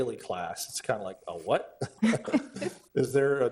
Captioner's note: board members laugh